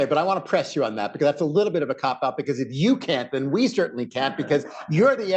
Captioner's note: laughter